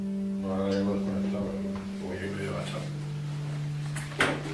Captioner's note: nurse speaking Spanish